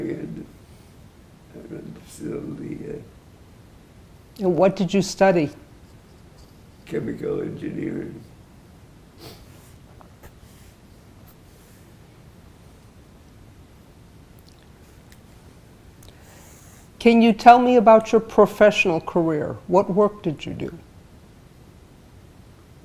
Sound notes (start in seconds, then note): 8.3 pauses 8 seconds